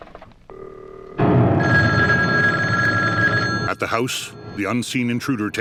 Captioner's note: dial tone droning; phone ringing; clock chiming